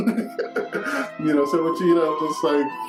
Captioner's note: laughing